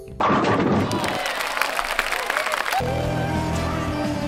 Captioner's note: applause